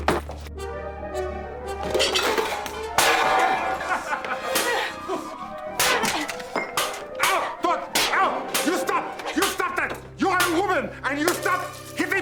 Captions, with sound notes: (dramatic music) (laughing) (metal clanging) - Ow, you stop! You stop that. You are woman. And, you stop hitting me.